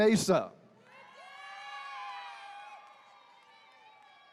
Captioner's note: attendees cheering